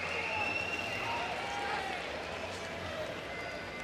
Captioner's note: crowd cheering